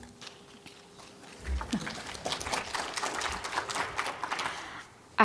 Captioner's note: applause